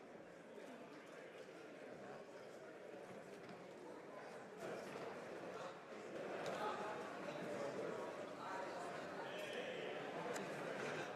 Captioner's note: speaking French